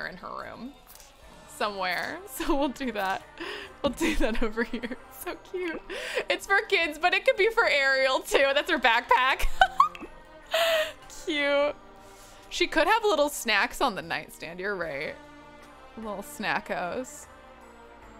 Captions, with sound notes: in her room somewhere. So we'll do that. We'll do that over here. It's so cute. It's for kids, but it could be for Ariel, too. That's her backpack. (laughs) Cute. She could have little snacks on the nightstand. You're right, little snackos.